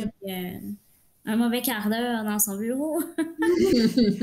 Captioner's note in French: Rires